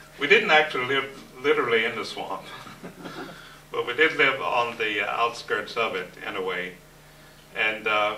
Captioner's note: laughter